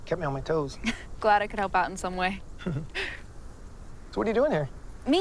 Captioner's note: chuckles